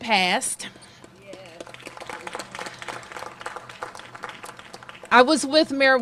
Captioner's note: applause